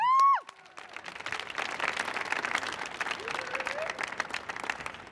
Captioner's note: crowd applauding